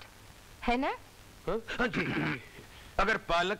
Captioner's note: Clears throat